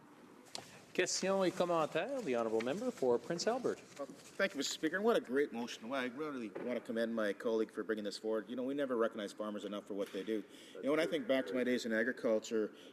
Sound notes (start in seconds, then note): 7.9 speaking in french